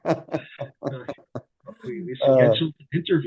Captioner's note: laughter